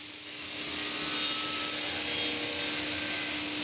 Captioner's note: machine noise